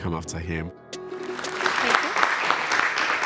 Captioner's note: audience applauding